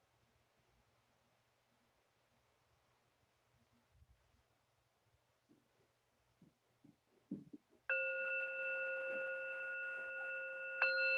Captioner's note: sound of bell ringing